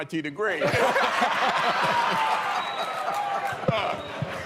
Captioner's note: laughter